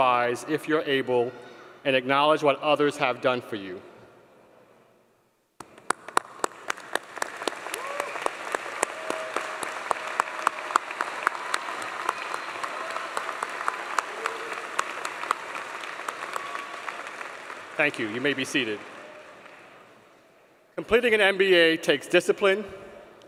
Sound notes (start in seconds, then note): 13.2 applause